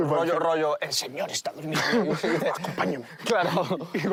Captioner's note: laughs